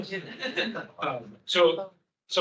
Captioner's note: attendees laughing